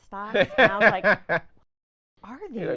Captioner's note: laughing